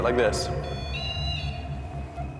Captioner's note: beeping; ominous music